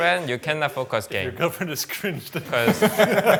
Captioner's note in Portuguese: risos